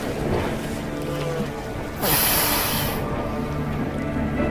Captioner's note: groaning